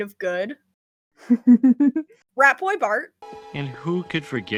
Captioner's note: laughs